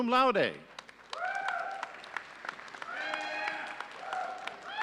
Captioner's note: audience cheering